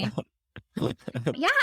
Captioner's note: laughing